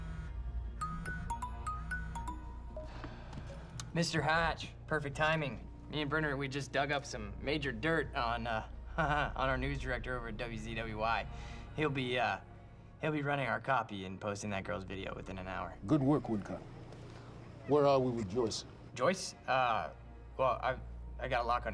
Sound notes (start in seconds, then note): 0.8 ringtone continues; 2.0 sighs; 8.2 laughs